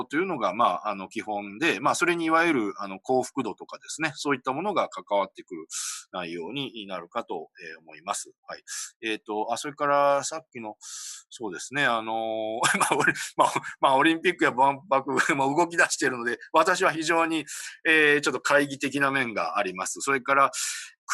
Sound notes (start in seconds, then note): 12.6 laughs